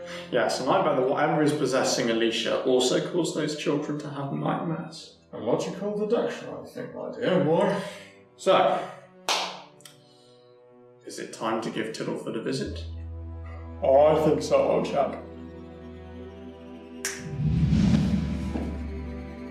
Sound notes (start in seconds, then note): 9.2 claps hands; 17.0 snaps fingers